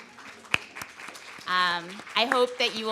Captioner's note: audience applauds